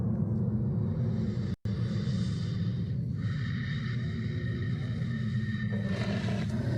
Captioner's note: heavy Breathing; dog Growling